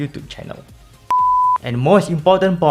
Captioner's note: beep